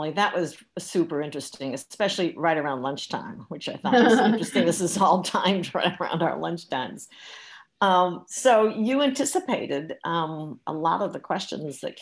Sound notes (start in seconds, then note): 3.9 murmurs